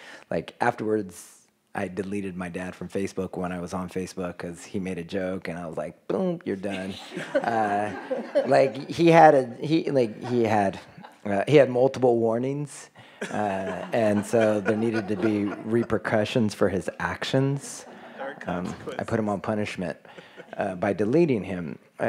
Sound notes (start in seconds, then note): 6.8 everyone laughs; 13.2 everyone laughs